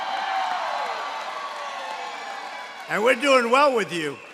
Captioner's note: applause